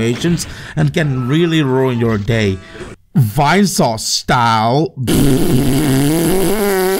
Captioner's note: raspberry